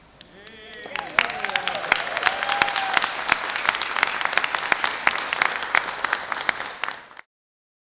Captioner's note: cheers and applause